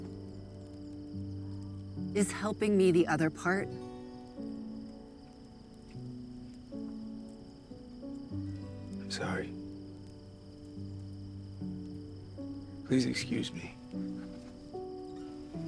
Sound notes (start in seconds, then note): none